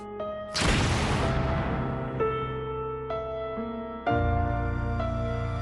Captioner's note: gunshot